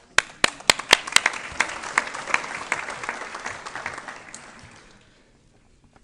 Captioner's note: applause